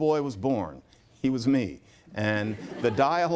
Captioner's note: laughter